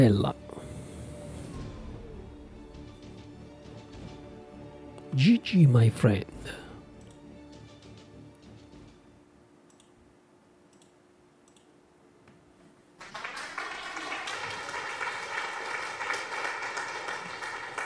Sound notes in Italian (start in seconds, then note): 10.7 Applauso